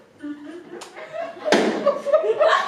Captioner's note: loud knock like a rimshot